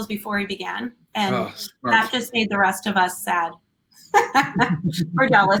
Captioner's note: laughs